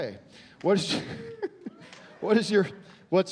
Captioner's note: chuckling